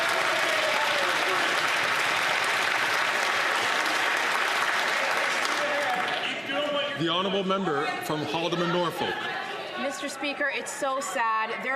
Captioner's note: some Applause